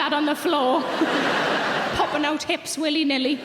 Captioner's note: audience laughs